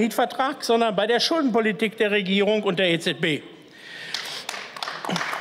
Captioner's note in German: Beifall